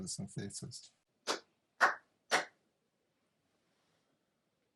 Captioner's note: clapping hands